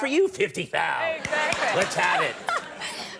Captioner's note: Conan snapping; audience laughing